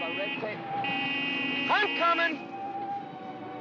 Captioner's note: jeep horn honks